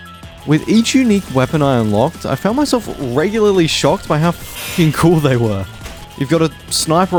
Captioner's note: chainsaw sound